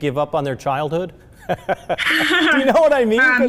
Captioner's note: both laughing